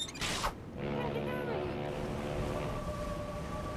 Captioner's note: ship's horn blowing